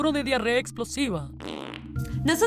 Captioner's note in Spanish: suena una flatulencia